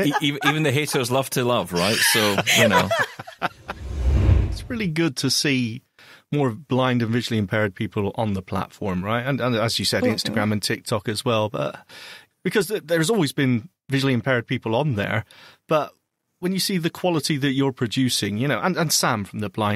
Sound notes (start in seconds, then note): 3.0 laughter; 3.5 transition sound